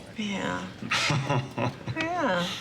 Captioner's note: laughs